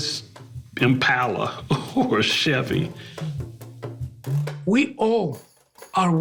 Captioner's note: chuckles